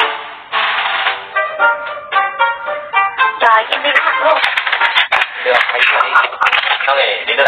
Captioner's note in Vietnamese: Vỗ tay